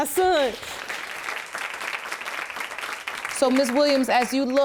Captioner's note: audience applauding